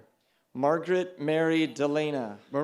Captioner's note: cheering